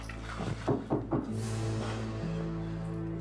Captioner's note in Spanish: toques en la puerta